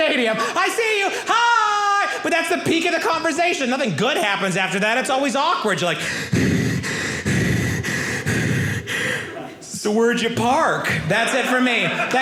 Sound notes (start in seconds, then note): 6.0 panting